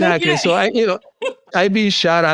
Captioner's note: chuckles